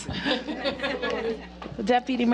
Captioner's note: laughter